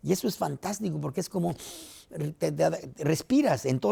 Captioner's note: inhala